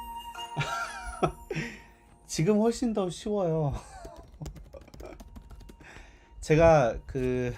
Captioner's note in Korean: 웃음